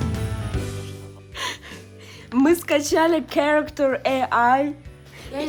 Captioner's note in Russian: смех